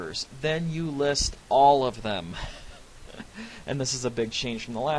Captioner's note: laughs